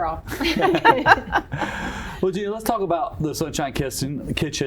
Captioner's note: laughter